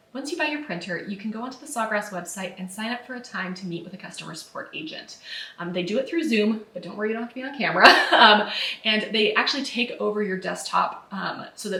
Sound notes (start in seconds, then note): 7.8 laughs